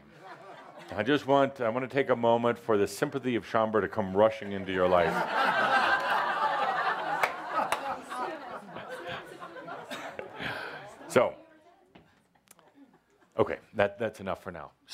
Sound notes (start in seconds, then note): 6.3 lots of laughter